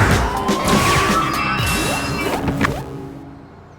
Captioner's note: bus brakes squeal, doors whoosh open